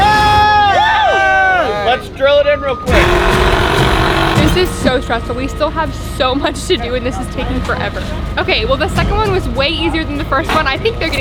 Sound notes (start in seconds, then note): 2.9 power tool whirring; 3.1 intense dramatic music